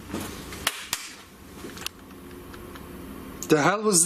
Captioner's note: loud slapping